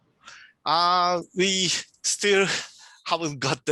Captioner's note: chuckling